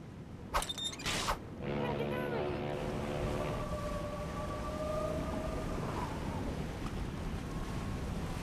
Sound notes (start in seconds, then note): 1.5 ship's horn blowing